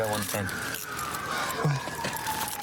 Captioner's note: sirens grow louder